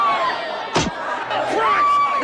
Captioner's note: first lady screaming; gun blasting